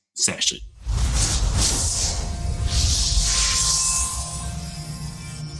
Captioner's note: electronic sizzle